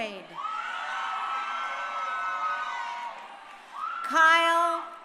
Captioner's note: crowd cheering